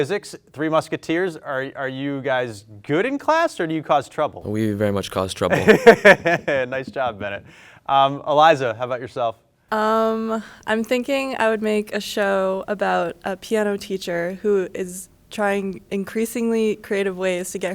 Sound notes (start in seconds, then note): 5.4 laughing